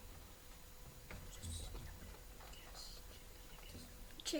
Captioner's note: students whisper